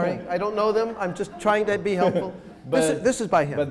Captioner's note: laughing